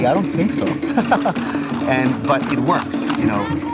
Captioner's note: laughs